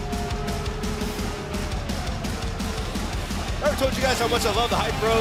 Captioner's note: crowd cheering